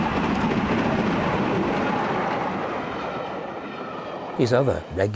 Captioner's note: train passes